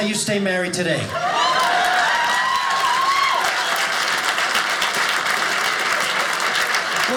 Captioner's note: audience cheers